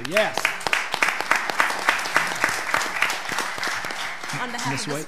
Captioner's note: audience clapping